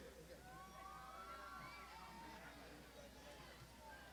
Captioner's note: crowd shouting